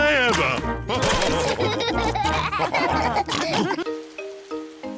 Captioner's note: all laugh